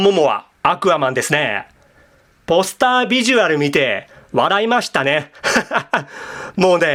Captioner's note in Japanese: 笑い